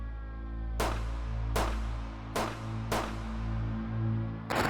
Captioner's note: gunshots crackling